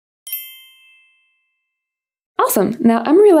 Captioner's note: text dings